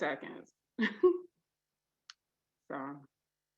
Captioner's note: chuckles